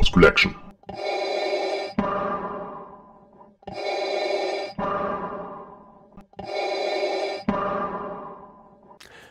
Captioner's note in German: Darth Vader Atemgeräusche